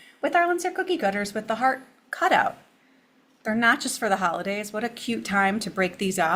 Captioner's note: none